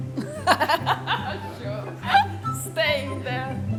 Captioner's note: laughs